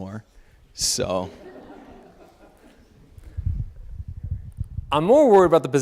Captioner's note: audience laughing